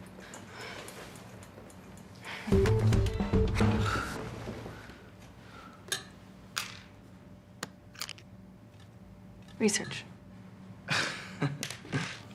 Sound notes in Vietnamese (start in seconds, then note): 0.1 hừm; 3.3 Scat thở dài chán nản; 10.9 cười